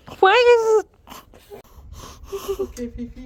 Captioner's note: gasping